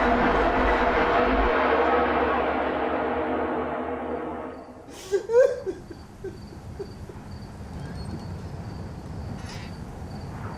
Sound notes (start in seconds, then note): 0.0 ominous music; 4.9 man cries